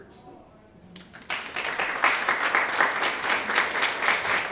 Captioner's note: applause